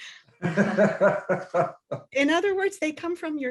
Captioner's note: laughs